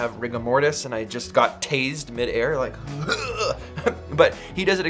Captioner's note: groans